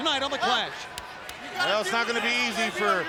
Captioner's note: hands thudding